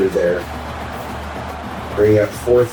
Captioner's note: crowd Noises